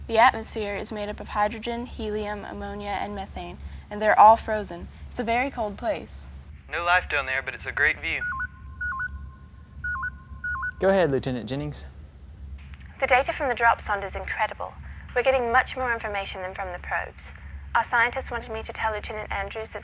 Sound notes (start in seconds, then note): 7.8 intercom signal